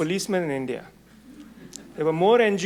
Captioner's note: audience murmuring